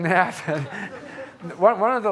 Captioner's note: audience chuckling